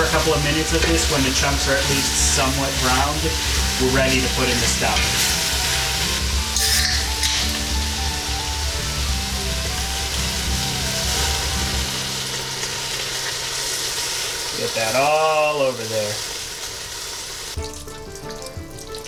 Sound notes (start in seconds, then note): 6.5 can opening noise; 9.0 pouring noise